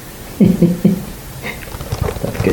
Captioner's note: laughing